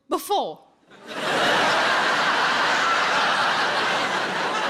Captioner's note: audience laughs